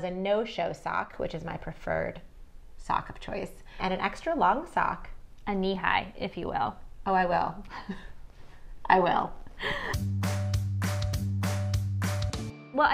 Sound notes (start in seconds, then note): 9.6 both chuckle